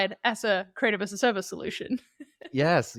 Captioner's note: laughing